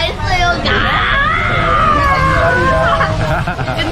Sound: dental machine operating sound

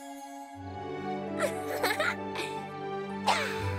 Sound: giggles

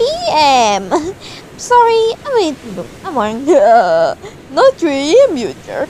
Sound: Shiryu: *laughing

